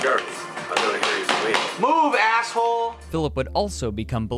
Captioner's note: clapping in frustration